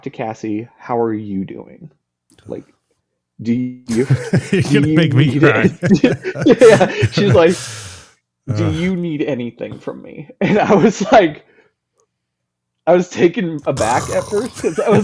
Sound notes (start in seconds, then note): 6.5 laughing